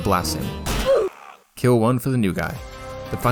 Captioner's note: guttural scream